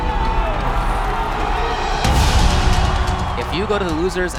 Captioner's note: crowd cheering